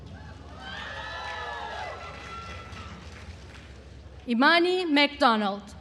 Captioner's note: attendees cheering and applauding